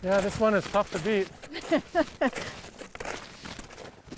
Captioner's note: laughing